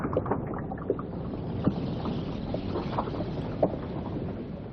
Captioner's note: water sloshing